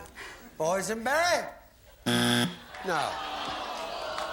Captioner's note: buzzer